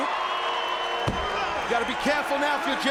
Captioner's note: audience cheering